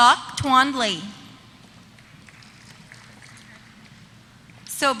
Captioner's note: applause